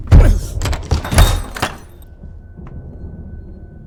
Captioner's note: Bill grunts